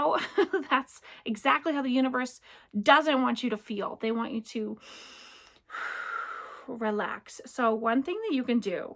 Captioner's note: deep breath